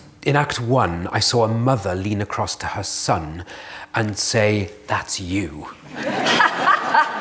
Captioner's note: laughter